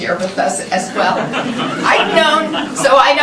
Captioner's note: laughter